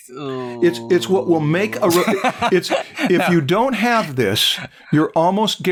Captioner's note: laughter